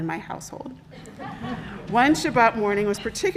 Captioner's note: congregation laughing